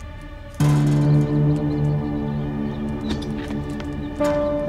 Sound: rats squeaking

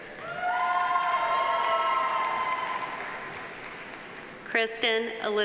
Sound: audience applauding; audience cheering

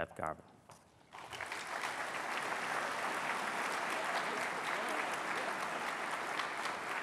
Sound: applause

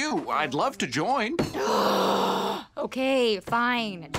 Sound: sighing

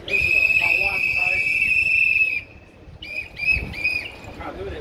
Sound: more whistles blowing

